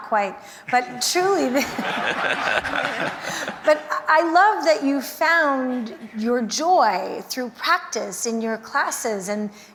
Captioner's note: laughter